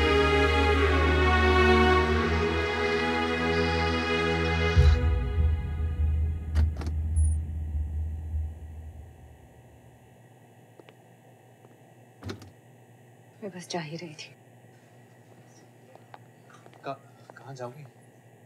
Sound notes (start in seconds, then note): 6.4 Door opens; 12.2 Door closes